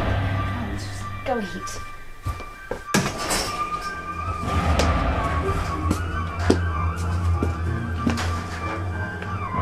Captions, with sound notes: Come on, lets just go eat. (garage door opens)